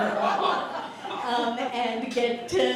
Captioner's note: laughter